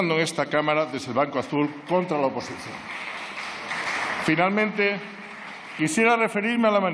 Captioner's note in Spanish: Aplausos